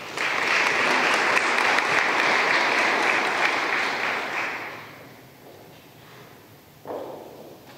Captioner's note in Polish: oklaski